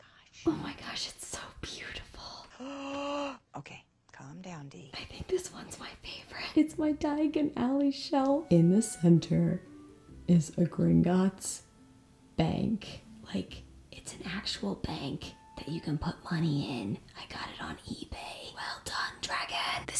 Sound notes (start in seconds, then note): 2.5 gasps